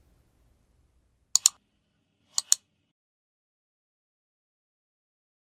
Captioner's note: mouse clicks